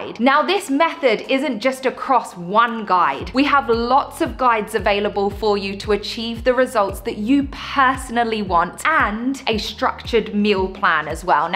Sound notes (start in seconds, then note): none